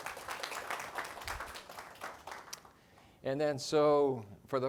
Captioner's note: audience applauding